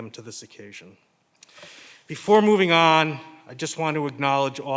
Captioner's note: breathes deeply